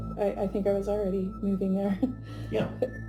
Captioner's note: chuckles